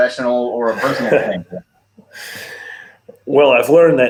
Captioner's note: coach laughs